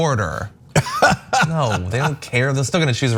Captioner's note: laugh